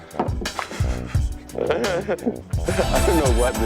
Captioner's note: laughing